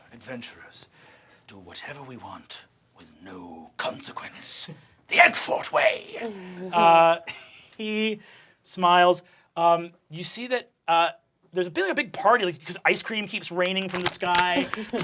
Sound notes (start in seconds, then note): 6.2 laughing; 13.8 ice-cream splattering